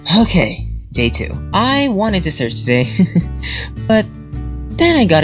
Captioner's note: sighs; chuckles